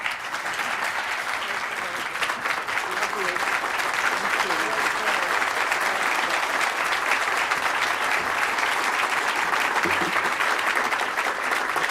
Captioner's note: applause